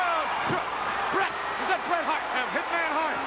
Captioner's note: ring bell clanging